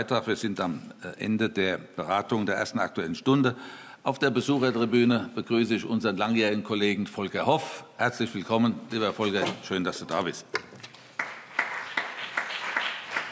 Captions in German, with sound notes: - Wir sind am Ende der Beratung der ersten Aktuellen Stunde. Auf der Besuchertribüne begrüße ich unseren langjährigen Kollegen Volker Hoff. Lieber Volker, herzlich willkommen. Schön, dass du da bist. [Allgemeiner Beifall]